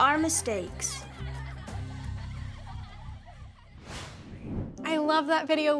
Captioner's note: children laughing